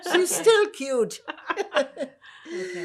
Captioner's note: laughing